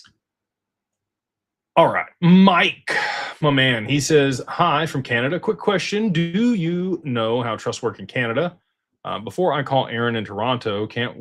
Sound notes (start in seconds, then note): 2.8 sighs